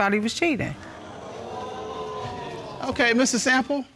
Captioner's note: audience gasping